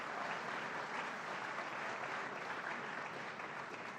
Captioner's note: applause